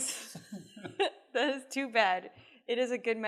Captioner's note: laughs